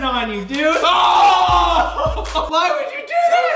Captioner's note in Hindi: चिल्लाना